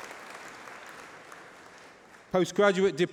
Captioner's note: applause